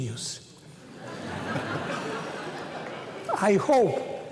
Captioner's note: laughter